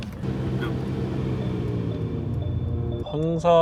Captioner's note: stuttering